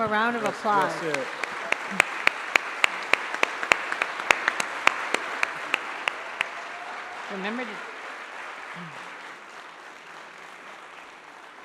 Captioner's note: applause